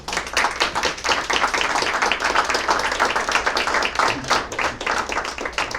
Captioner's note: applause